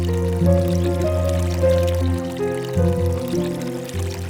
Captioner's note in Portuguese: som de agua corrente